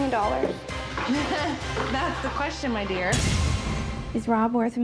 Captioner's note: laughs